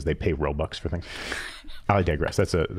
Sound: laughing

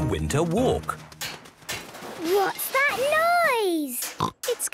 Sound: distant banging, crashes

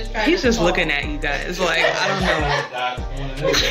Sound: laughs

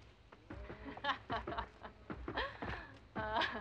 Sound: laughing

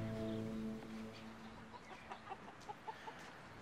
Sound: clucks

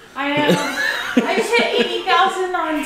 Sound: laughter

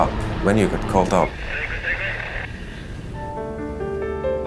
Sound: muffled voice on radio; melodic piano playing

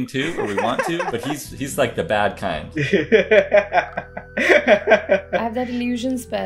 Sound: laughter

